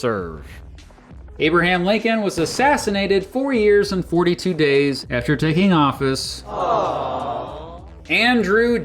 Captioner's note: awww sound effect